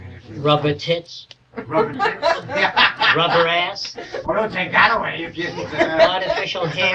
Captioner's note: laughter; more laughter; laughter